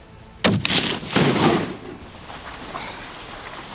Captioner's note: gun firing